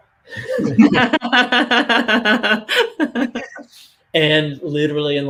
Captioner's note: both laughing